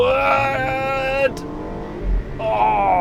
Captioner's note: revving